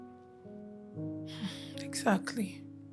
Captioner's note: sighs